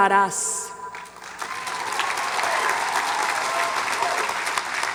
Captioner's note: audience applauds